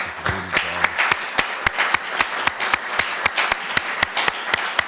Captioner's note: applause